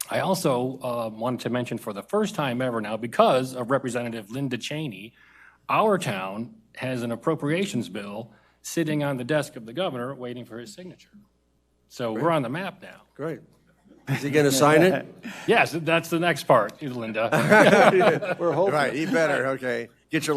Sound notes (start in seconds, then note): 17.3 audience laughs